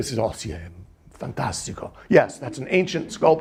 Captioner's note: speaking in foreign language